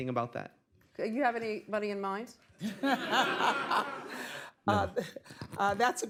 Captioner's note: laughter